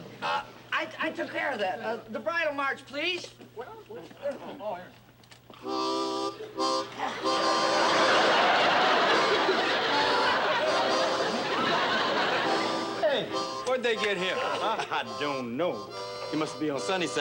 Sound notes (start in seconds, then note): 7.7 laughter